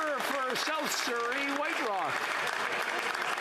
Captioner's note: some Applause